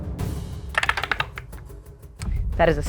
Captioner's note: die rattling